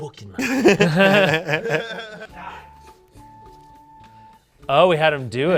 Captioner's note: laugh